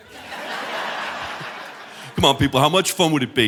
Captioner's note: audience laughing; chuckles